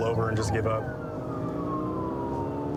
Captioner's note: siren blaring